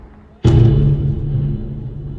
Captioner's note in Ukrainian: вибух